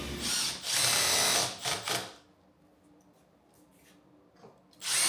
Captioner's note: electric screwdriver whirs